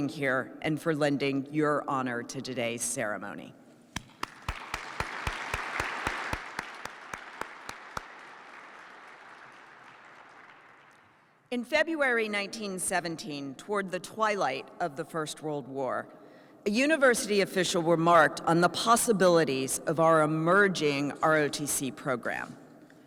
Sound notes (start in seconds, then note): 3.9 participants clap